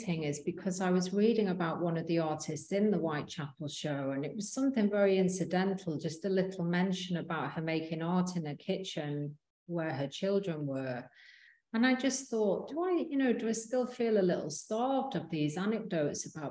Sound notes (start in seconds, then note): none